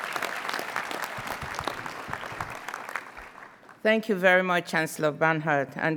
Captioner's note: applause